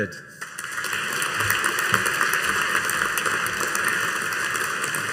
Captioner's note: audience applauding